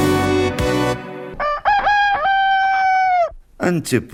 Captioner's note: sound of a rooster